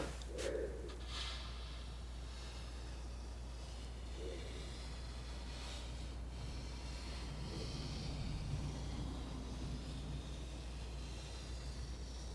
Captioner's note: scratching